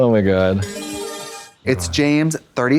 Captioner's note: bright chime